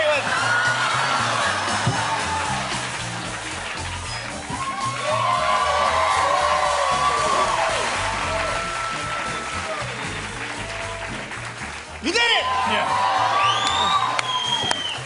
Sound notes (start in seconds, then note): 0.1 laughter, cheers, applause; 4.8 cheers and applause; 12.9 cheers and applause